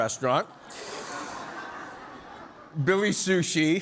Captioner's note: audience laughing